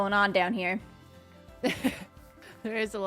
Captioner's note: laughs